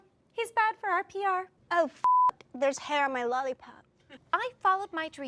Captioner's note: beep